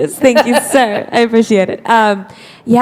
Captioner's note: laughter